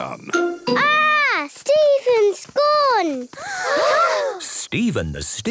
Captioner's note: gasps